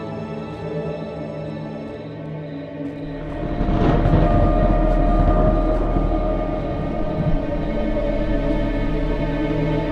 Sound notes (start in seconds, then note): 3.2 thunder claps; 3.7 suspenseful orchestral music